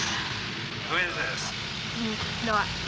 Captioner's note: on phone